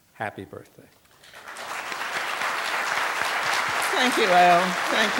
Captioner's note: applause